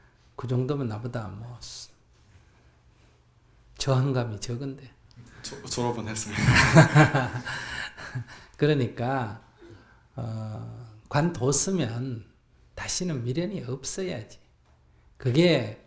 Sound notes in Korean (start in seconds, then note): 6.3 스님 웃음